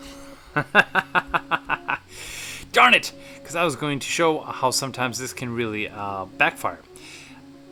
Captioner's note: laughing